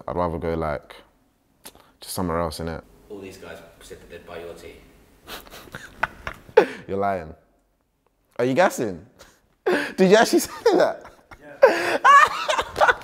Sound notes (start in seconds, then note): 5.3 laughing